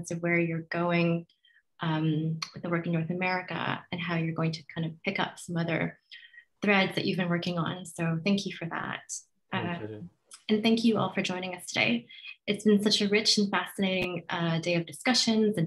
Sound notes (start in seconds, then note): 9.7 mumbles softly